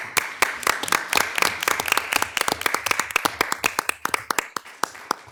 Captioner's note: audience applauding